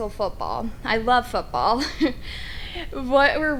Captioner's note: chuckles